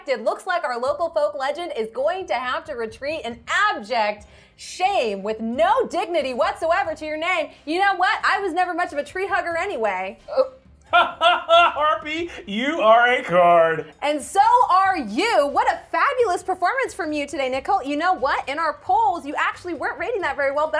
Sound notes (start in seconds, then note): 10.9 laughs